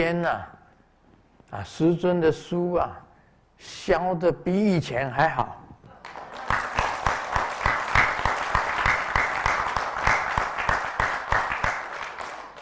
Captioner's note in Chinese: 眾鼓掌